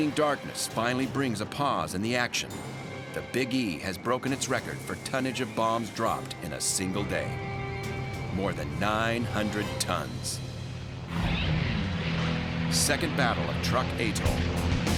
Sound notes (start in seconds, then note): 11.3 engine roaring